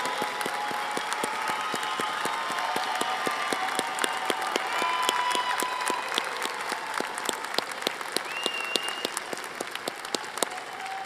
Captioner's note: applause